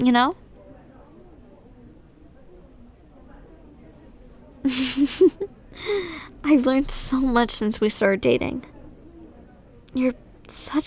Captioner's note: soft laugh